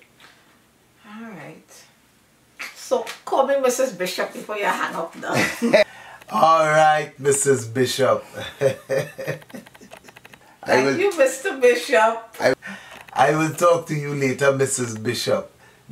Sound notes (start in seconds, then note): 8.2 laugh